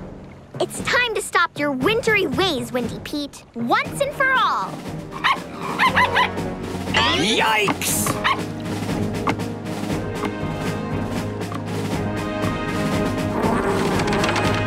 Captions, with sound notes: It's time to stop your wintry ways, Windy Pete! Once and for all! [barking] Yikes!